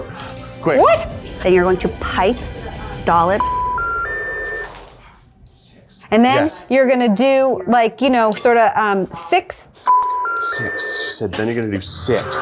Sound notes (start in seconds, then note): 3.6 dial tone; 9.1 dial tone; 9.9 beep